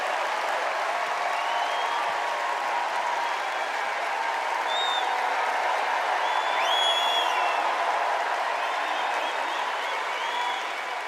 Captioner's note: cheers and applause